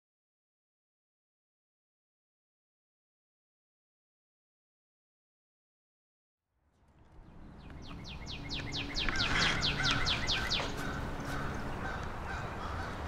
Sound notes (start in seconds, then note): 7.0 birds chirping; 8.3 crows squawking